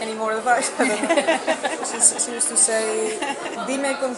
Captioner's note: laughs